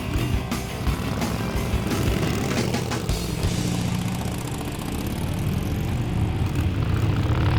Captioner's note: upbeat music continues; engines growling